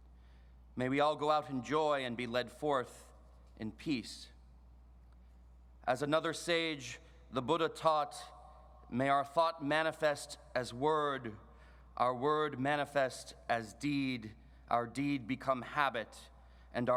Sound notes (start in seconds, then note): none